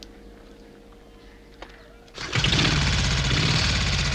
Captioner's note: motorcycle starts